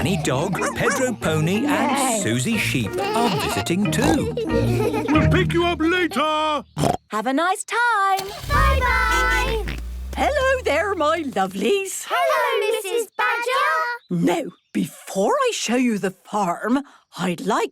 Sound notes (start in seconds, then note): 6.8 snorts